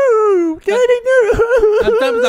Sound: starts Crying

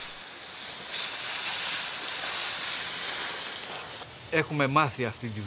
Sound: machinery whirring; speaking in Greek

